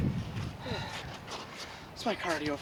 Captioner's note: breathing heavily